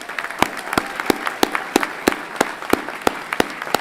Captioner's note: everyone clapping